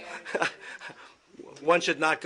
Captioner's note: laughter